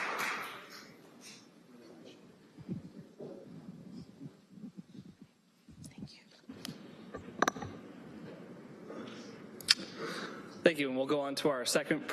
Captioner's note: applause